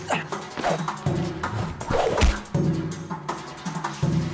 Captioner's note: grunts; thuds and throws